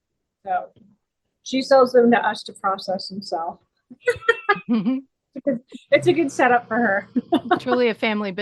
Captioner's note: laughing